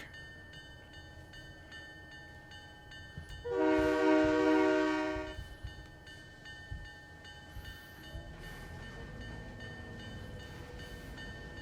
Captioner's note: train whistle